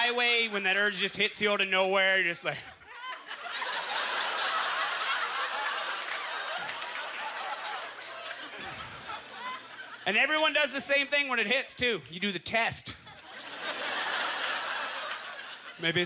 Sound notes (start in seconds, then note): 2.6 audience laughter; 13.0 audience chuckling